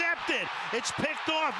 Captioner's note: cheering